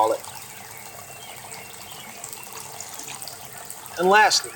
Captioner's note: water bubbling